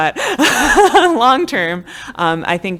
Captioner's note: laughing